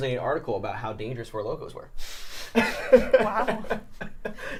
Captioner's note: laughs